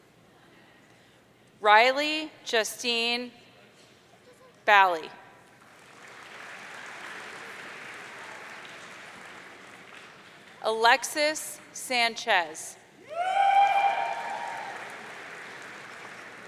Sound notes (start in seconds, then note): 5.6 audience applauding; 13.0 audience cheering